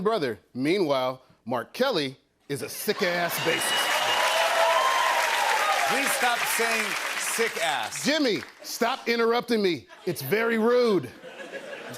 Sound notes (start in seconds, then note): 3.0 cheers and applause